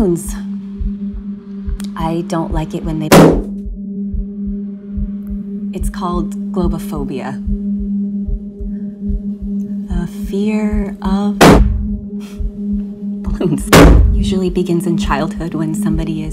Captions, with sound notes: I don't like it when they. (popping) It's called Globophobia. The fear of (popping) balloons. (popping) it usually begins in childhood when somebody is frightened